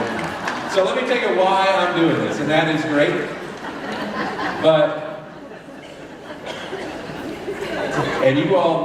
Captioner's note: laughter; laughter